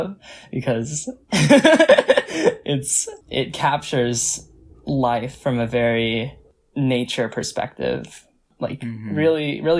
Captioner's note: laughs